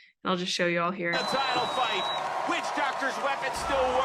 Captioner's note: overlapping voices and crowd noises